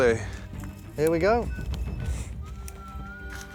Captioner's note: beeping